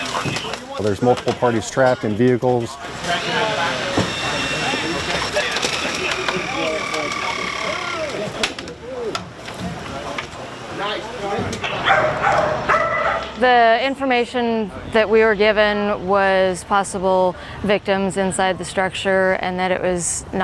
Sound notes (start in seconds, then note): 2.7 whir of machinery; 11.8 dog barking